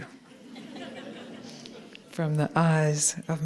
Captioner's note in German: Gelächter